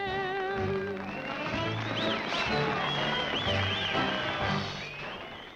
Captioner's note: crowd applauding and whistling